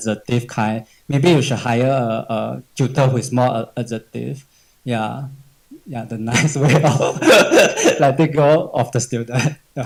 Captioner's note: laughs